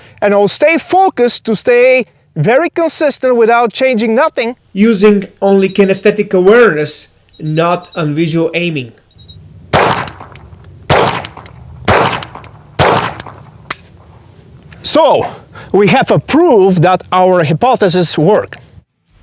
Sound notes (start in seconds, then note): 5.1 line ticking; 10.8 pistol firing; 13.5 gun dry firing